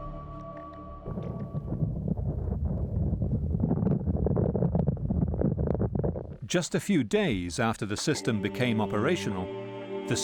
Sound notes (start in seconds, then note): 0.8 ground rumbles